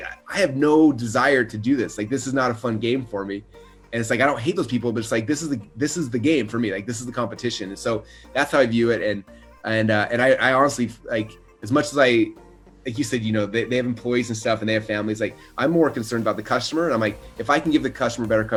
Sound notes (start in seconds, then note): none